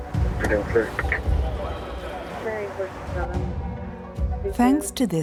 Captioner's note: chatter on police radio